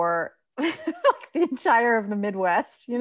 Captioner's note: laughs